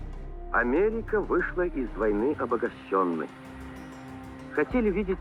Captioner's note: man speaking in Russian language